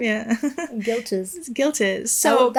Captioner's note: chuckles